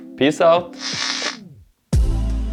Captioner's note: noise of a man getting unalived from 9000 volts